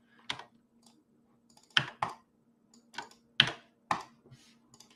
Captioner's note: keyboard clicks